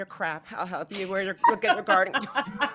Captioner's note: laughing